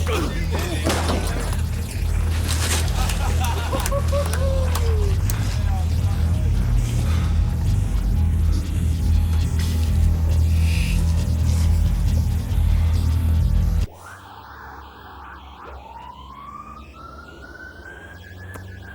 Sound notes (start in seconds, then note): 0.0 grunting; 2.0 spectator laughing; 6.6 breathing heavily; 13.8 distant siren wailing